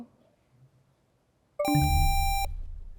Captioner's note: bell chimes; buzzer sound